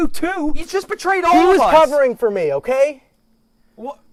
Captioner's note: shouting